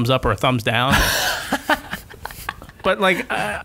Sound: laughter

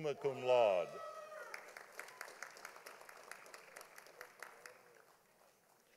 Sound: audience applauding

